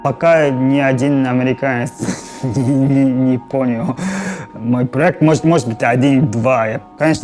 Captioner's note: laughs